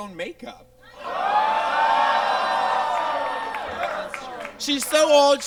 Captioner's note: audience exclaims